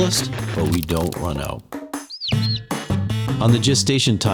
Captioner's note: chick chirps